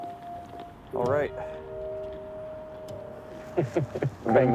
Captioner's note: laughs